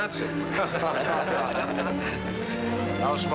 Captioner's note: laughing